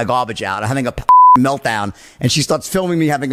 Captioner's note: beep